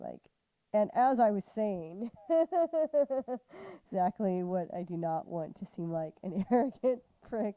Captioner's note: laughter